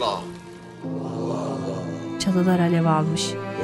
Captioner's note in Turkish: Hep bir ağızdan